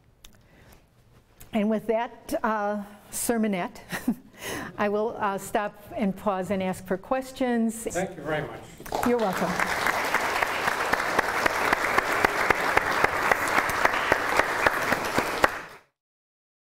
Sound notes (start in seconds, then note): 7.0 applause